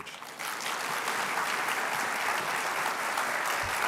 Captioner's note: applause